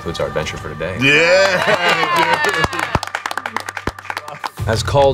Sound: cheering

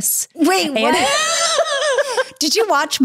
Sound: both laughing

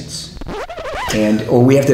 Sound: vinyl record scratches

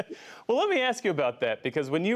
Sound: laughter

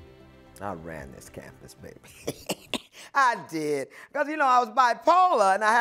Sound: laughs

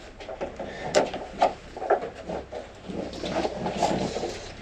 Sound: ladder rustling

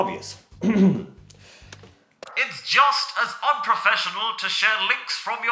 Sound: clears throat

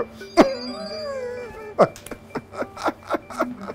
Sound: laughing

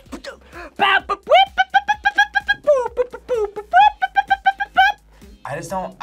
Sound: imitates instrumentals

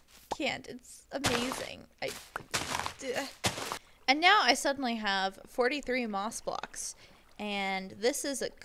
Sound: sounds of happiness

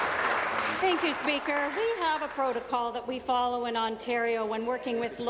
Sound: applause

